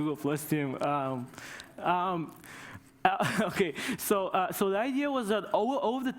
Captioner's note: laughter